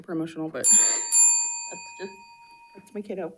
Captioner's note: bell rings